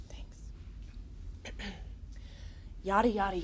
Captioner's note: Ava clears throat